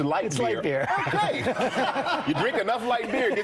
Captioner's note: laughter